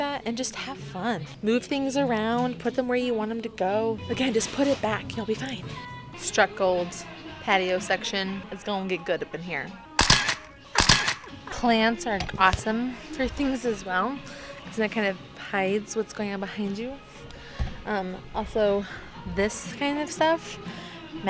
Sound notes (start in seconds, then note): 10.7 camera shuttering